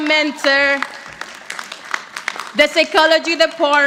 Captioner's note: audience applauding